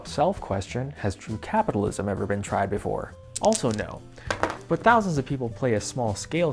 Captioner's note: dice shaking; dice rolling